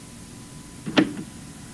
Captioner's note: tape Starts